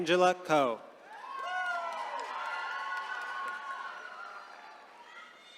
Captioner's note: attendees cheering